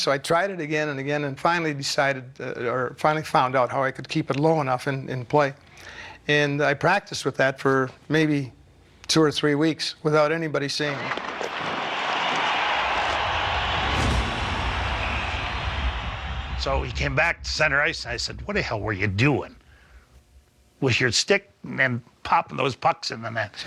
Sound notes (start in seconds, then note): 11.0 crowd cheers